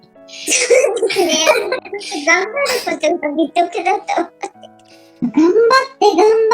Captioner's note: laughs; laughs